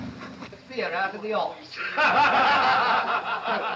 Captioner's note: raucous laughter from inside